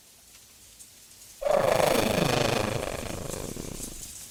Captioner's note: Sad bahro murmur